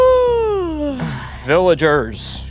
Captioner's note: yawns